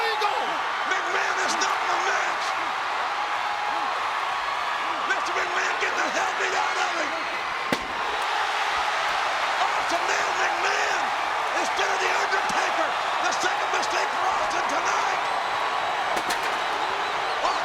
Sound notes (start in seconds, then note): 2.4 crowd cheering; 7.6 body thudding; 8.4 crowd cheering